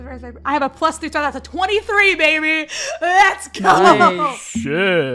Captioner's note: laughing